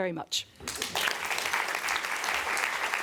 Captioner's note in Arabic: تصفيق